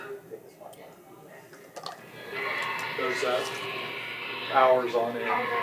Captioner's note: man screeching